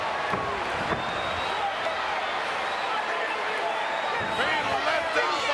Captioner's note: crowd cheers